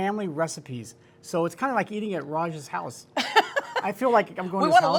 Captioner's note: laughs